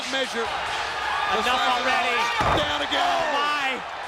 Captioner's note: body thudding